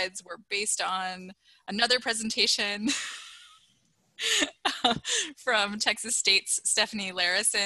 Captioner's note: laughter